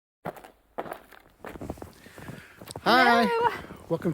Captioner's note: snow crunching